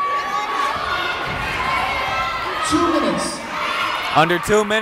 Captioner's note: yelling